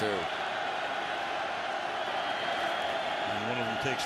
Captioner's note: cheers